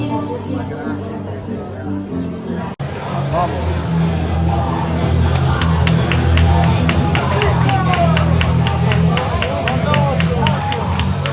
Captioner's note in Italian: Applauso